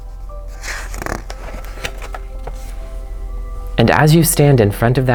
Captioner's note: page turns